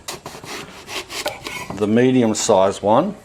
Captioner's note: slicing